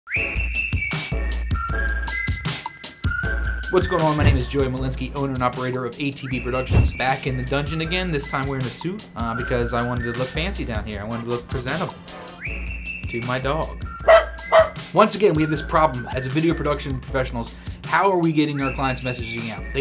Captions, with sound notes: (upbeat whistling music) - What's going on, my name is Joey Malinski, owner and operator of ATB Productions. Back in the dungeon again, this time wearing a suit, because I wanted to look fancy down here, I wanted to look presentable. To my dog. (dog barks) Once again we have this problem as a video production professionals; how are we getting our clients' messaging out?